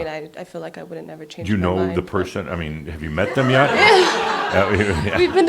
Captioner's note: laughter